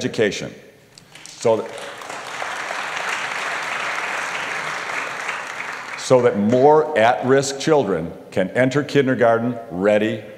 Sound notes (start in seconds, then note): 0.9 applause